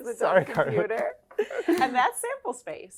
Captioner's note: laughs